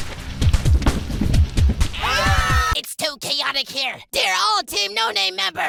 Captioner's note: scream